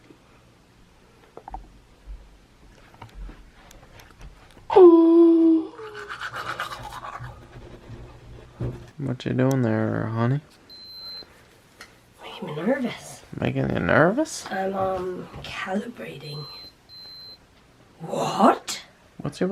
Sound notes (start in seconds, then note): 5.8 brushing teeth; 10.7 glucometer beeps